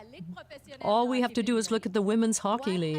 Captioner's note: speaking French